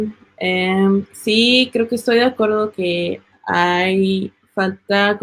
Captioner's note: speaking Spanish